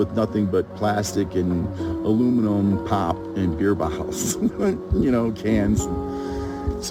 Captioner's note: laughs